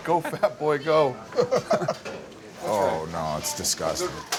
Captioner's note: laughing